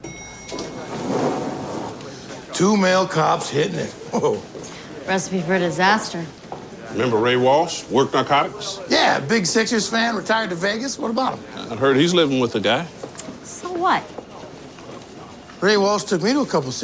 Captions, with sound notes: [elevator bell dings] Two male cops hittin' it. Whoa. Recipe for disaster. Remember Ray Walsh, worked Narcotics? Yeah, big Sixers' fan, retired to Vegas. What about him? I heard he's living with a guy. So what?